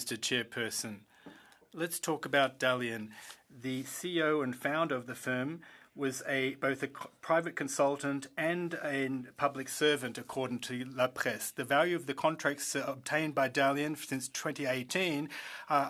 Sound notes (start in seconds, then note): 2.9 speaking French